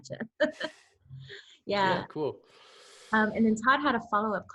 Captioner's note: laughs